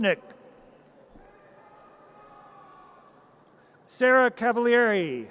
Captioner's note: audience cheers